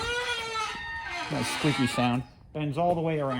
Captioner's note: squeaking